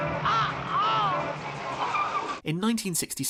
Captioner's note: grunting